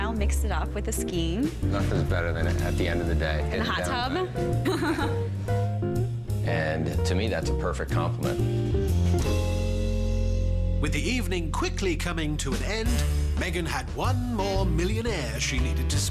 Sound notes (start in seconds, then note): 5.0 laughs